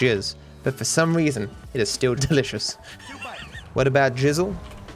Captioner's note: laughs